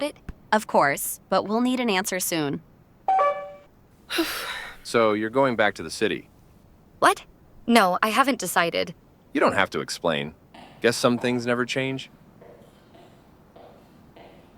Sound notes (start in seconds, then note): 3.1 phone call ends; 4.1 sigh